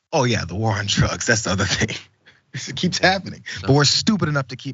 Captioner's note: laugh